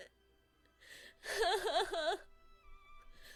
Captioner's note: crying